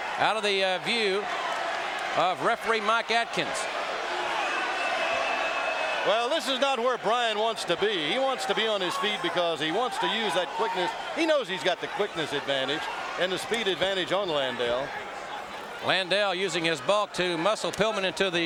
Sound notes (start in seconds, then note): 3.8 audience cheering